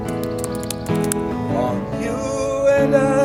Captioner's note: bird sounds